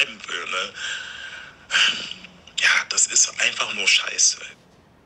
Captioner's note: Seufzen